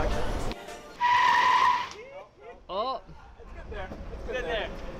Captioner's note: tires screeching